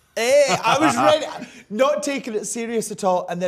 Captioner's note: laughs